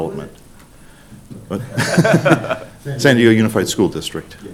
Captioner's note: laughing